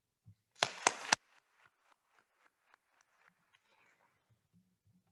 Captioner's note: attendees applauding